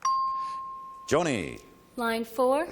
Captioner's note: ping